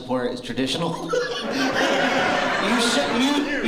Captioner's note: laughter